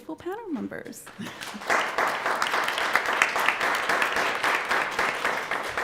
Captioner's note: applause